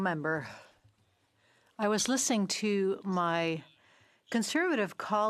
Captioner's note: speaking French